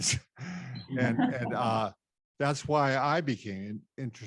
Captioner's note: all laugh